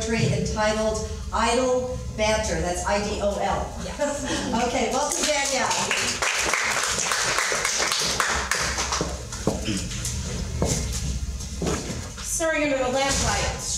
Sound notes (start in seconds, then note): 3.9 laughs; 4.9 applause